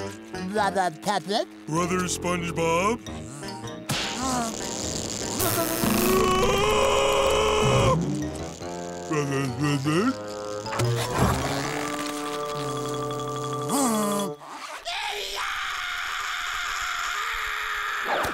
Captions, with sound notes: Brother Patrick. Brother SpongeBob. [buzzing] [screaming] Brother Squidward. [buzzing] [screaming]